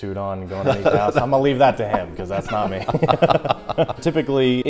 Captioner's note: laughter